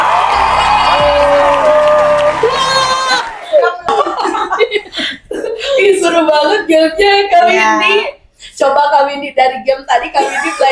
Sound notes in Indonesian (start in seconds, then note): 0.0 bersorak; 3.7 tertawa